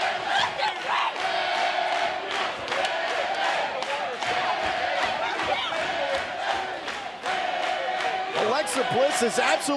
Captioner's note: fans chanting